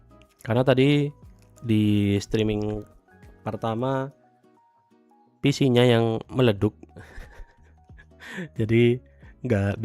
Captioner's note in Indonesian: tertawa